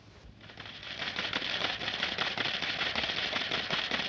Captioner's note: machine clicking